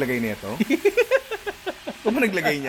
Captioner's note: laughter